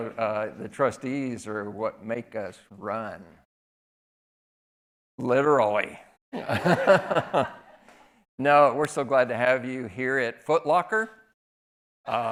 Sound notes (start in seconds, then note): 6.4 laughing